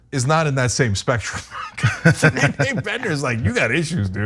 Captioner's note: laugh